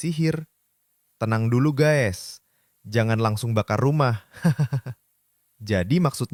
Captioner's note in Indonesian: tertawa